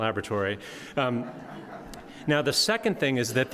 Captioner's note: audience laughing